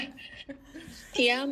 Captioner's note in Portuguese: Risos